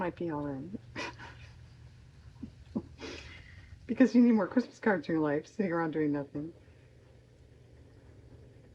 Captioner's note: laughs